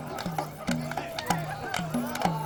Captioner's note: people cheering